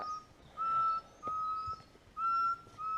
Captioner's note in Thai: เสียงนกร้อง